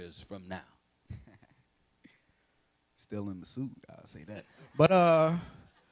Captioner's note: laughs